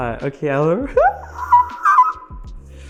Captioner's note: screeching for help